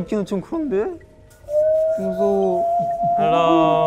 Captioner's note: the sound of the wind